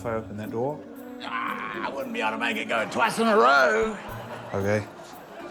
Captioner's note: groans